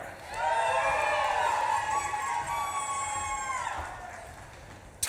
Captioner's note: audience claps and cheers